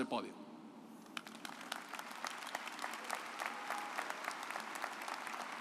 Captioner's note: audience applauds